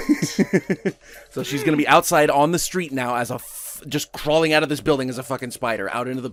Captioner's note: laughs